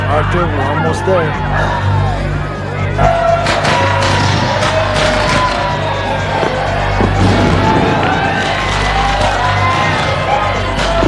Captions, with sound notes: - Arthur, we'll almost there. (sighing) (crowd cheering) (tense instrumental music)